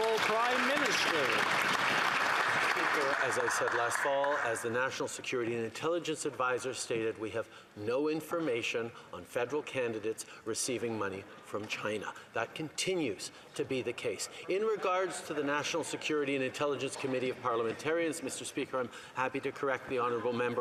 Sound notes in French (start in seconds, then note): 9.8 voix de l'interprète